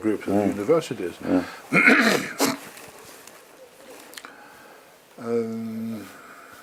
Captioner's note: cough